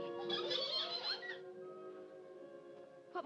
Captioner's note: giggling in background